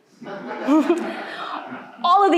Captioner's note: audience laughing